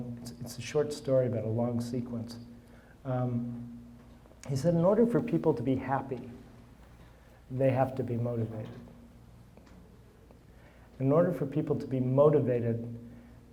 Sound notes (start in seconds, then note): none